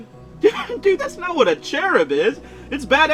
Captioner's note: laughs